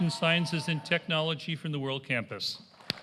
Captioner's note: applause